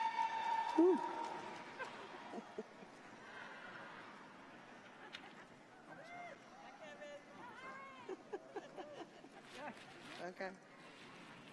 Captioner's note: cheers and applause